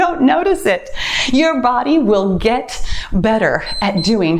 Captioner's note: timer beeps